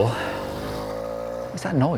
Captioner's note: motor revving